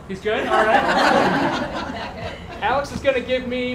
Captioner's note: laughter